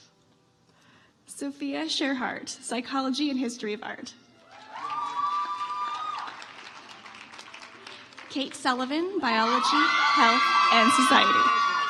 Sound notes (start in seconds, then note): 4.5 audience applauds